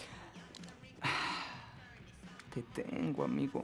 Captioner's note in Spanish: suspiro